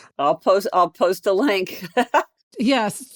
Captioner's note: laughs